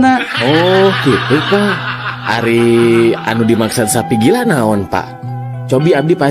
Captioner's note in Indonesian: tertawa